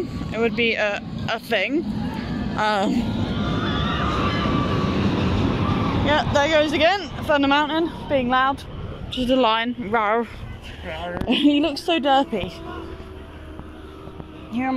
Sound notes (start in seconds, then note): 3.0 Yelling on Big Thunder Mountain